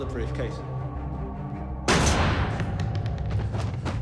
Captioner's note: gun fires; body clunks